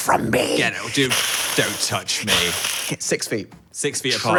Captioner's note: hisses